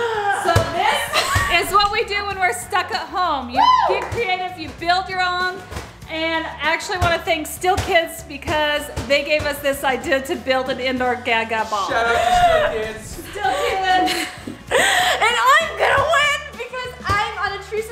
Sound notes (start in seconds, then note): 0.5 ball bouncing; 0.8 laughing; 11.9 gasping